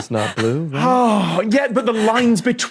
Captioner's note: wheezes profusely; sighs